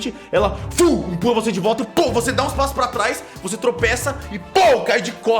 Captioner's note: pow